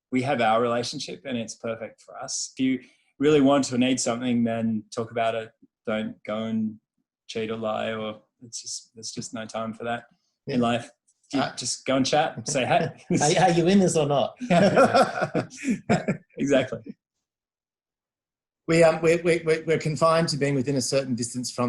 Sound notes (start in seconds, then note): 14.4 laughs